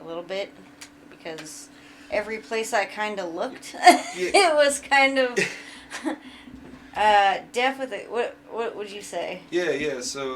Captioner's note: laughs; hesitates